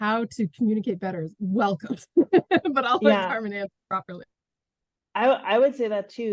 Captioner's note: laughs